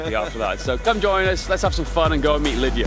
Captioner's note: laughs